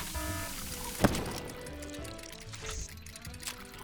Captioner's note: alarm sounding; explosion